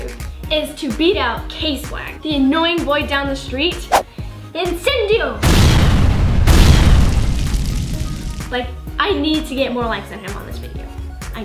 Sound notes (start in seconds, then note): 5.4 explosion